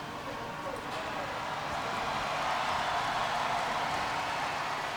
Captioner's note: audience cheers